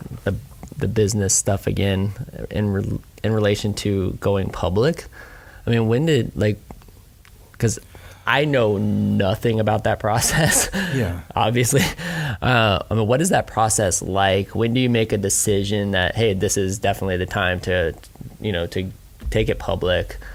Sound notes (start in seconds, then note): 10.2 laughing